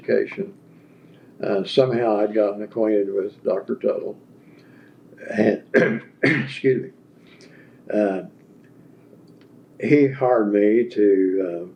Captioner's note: clears throat